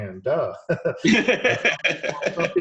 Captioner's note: both laughing